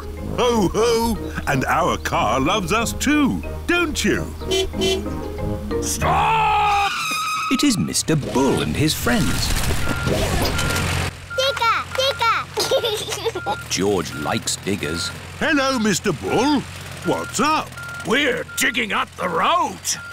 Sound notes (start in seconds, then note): 4.4 car honking; 5.8 tires screeching; 9.7 beeping; 12.5 giggles